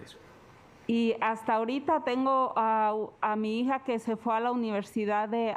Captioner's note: speaking Spanish